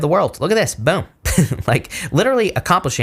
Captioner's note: host chuckling